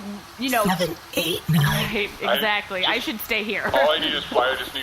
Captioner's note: enunciating